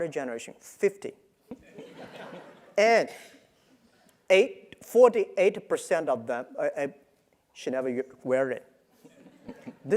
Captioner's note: laugh